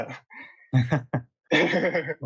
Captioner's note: laughs